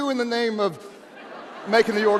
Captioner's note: audience laughs